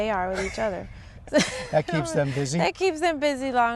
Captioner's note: laughter